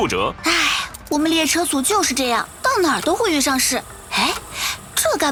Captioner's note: sigh